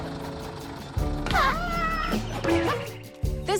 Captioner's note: screams